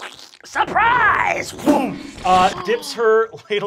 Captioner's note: splattering